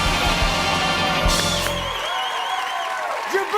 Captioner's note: cheers and applause